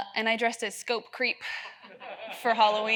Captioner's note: audience laughs